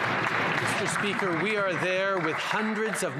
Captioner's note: some Applause